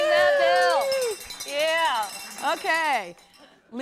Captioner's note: cheers